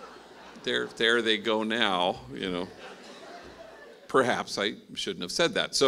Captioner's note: laughing